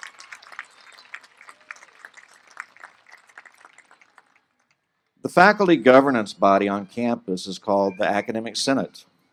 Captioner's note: applause